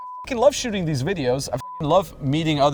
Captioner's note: beep